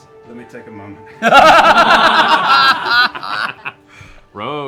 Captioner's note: laughter